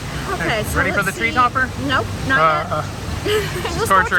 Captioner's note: moans; laughs